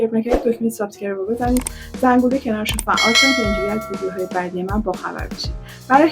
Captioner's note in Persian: صدای زنگ